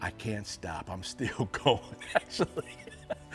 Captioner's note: laughs